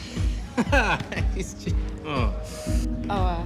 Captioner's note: laughs